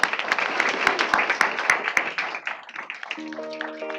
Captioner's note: applause